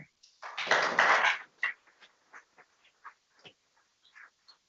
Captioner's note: people clapping